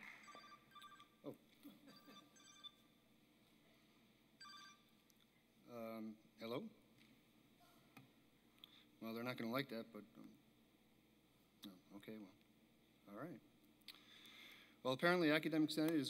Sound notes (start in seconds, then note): 0.0 applause; 1.9 cell phone